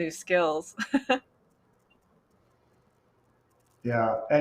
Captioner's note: laughs